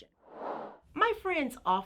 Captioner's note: air whooshing